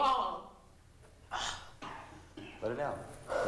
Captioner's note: deep sigh